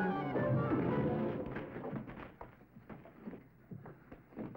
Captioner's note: body thudding